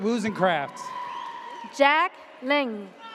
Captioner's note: audience cheers